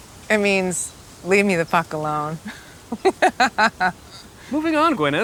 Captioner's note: chuckling